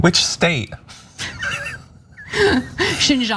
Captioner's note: laugh